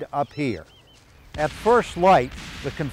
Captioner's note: artillery explodes